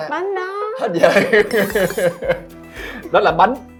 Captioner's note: laugh